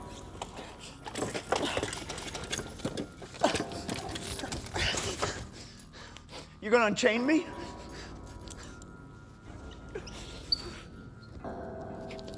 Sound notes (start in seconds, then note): none